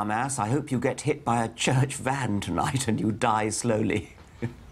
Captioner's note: laughs